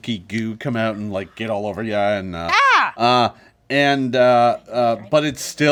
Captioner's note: Lys screams